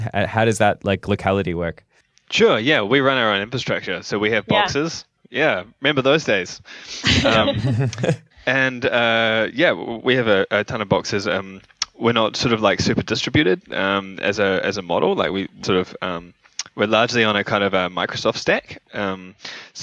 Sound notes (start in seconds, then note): 7.0 laughter